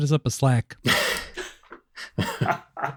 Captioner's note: laughter